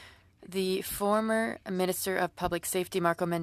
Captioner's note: speaking French